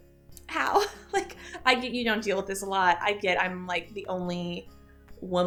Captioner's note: chuckle